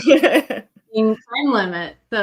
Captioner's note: laughs